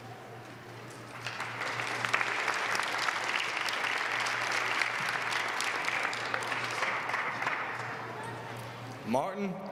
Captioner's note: applause